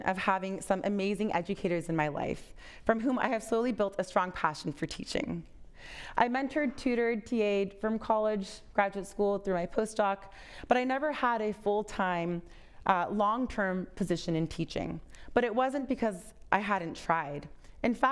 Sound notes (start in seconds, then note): none